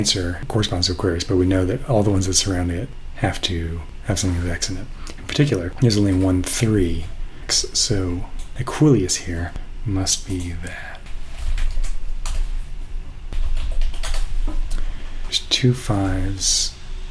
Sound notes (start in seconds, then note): none